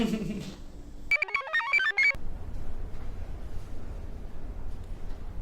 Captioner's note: Nev's Sister laughs; Nev laughs; computer chirps